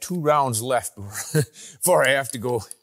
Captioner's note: laughs